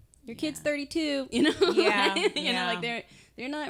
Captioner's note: laughing